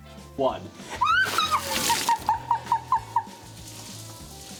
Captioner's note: laughing